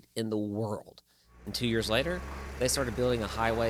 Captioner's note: machines rumbling